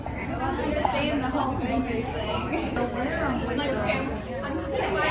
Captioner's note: overlapping chatter